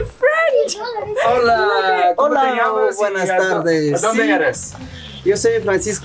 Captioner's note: speaking foreign language